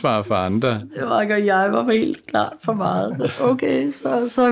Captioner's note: laughs